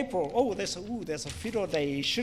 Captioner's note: foreign Language